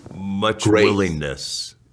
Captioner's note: chuckles